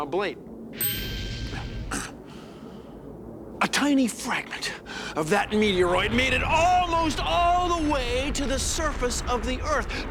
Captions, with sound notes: YOU KNOW, ABLATE. [ CLEARS THROAT ] A TINY FRAGMENT OF THAT METEOROID MADE IT ALMOST ALL THE WAY TO THE SURFACE OF THE EARTH,